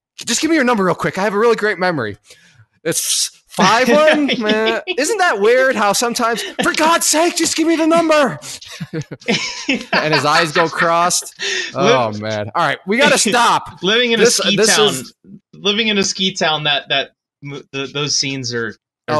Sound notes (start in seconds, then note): 3.9 laughs; 10.2 laughs